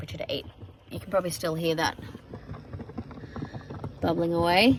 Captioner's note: heavy bubbling noises